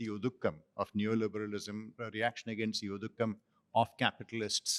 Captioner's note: non-english; non-english